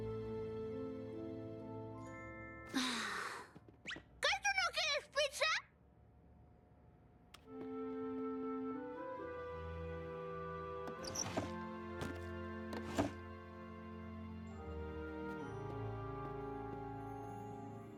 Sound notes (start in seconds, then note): 0.0 sad theme; 2.7 sigh